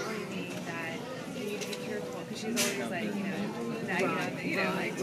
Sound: people talking, airport noises

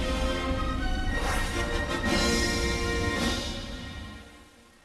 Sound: whooshing as 32-bit FOX music ends early

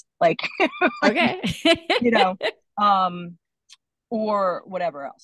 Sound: laughs

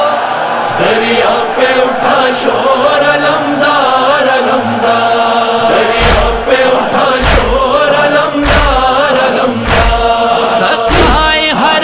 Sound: chanting; chanting

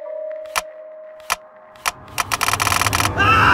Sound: ticking; male scream

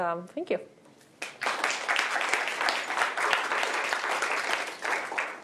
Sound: applause

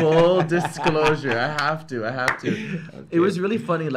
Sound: claps

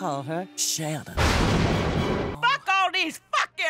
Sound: thunder claps

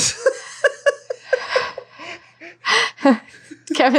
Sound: laughing

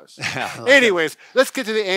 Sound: chuckles

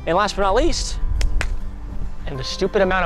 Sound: clap, clap

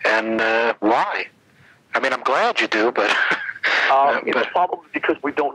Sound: laughing

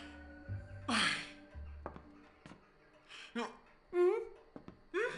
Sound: woman sighing and grunting

